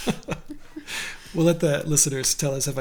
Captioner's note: laughs